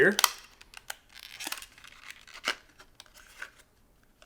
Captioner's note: package crinkling